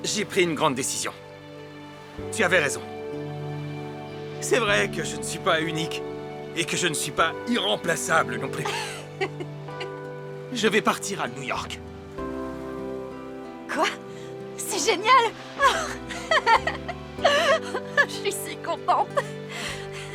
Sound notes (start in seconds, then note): 8.6 laughing; 15.6 laughing